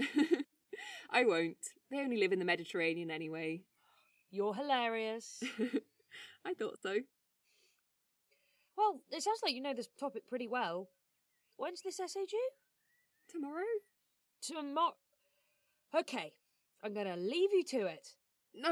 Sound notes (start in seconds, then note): 0.0 laughs; 5.4 laughing